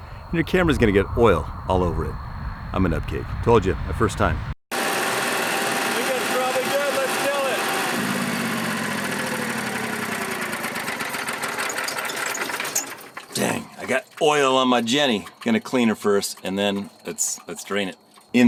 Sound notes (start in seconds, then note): 4.8 generator roaring